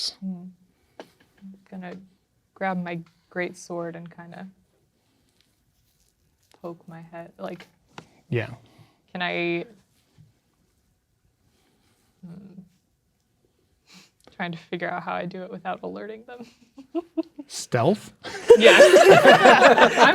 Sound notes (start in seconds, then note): 17.5 players laughing; 18.2 chuckling